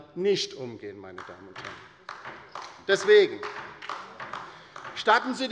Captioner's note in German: Beifall bei der LINKEN